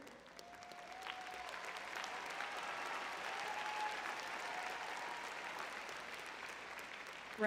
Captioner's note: cheering